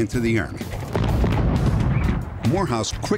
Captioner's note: explosion